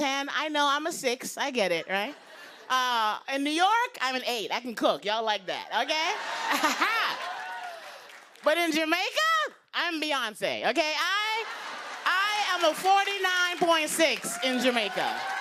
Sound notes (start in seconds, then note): 6.2 laughs; 11.2 laughter; 15.2 cheers and applause